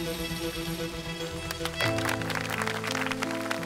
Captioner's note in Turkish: Alkışlıyorlar